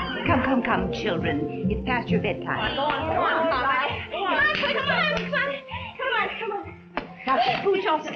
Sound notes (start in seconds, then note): 2.6 children fussing